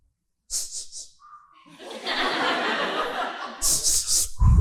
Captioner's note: heavy breathing